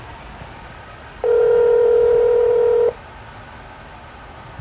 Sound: phone rings

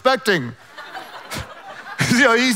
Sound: laughing quietly

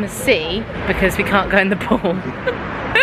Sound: laughing

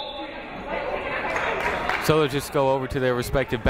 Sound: whistle blowing

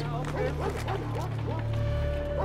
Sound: dogs barking; speaks in foreign language

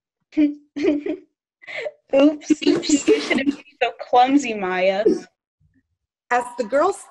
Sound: giggling

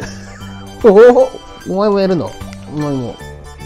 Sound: laughs

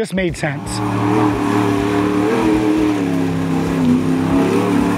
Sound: car engine revving

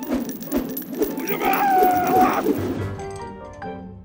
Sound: screaming

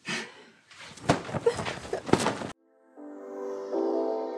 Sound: pillows thudding; gentle beat music

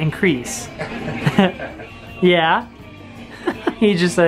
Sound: and barber laugh

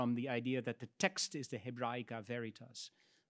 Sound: speaks in Latin

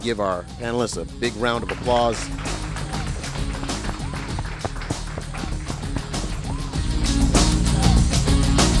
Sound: applause and Music

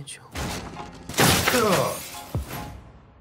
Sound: loud noise across the room

